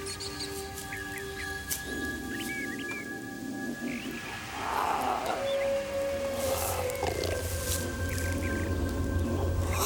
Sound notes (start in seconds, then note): 0.9 animals chirping; 4.2 animal growling